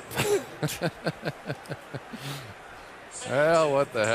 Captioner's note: laughs